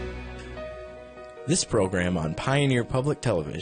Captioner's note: voiceover